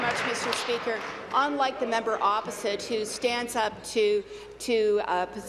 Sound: applause

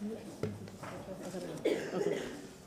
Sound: laughter

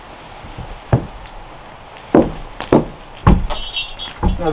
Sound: door thudding; bells clanging

